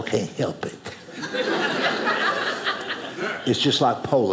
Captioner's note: audience laughing